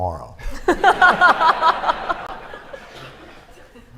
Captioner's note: laughter